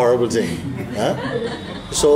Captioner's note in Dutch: gelach